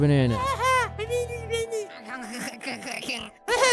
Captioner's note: offscreen giggling from X and Four